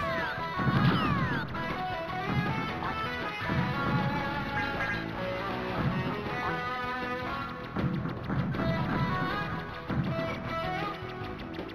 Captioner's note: game sounds